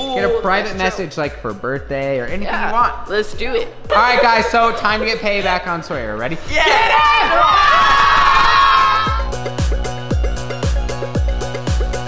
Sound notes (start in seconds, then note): 8.1 shouting; 9.3 upbeat music